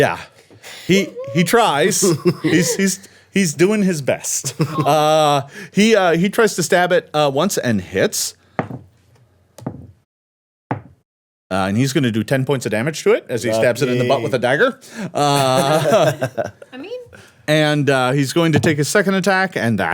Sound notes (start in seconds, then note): 15.1 everyone laughing